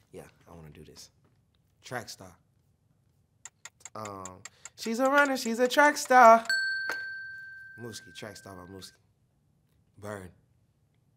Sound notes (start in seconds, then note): 3.4 timer ticking; 4.9 bell dinging